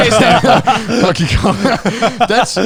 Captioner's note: everyone laughs